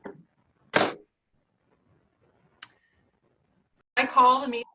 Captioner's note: gavel banging